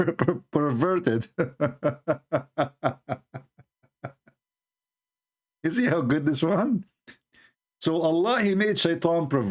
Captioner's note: Ketawa